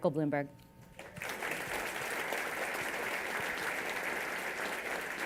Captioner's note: applause